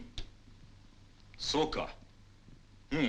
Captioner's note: speaking in foreign language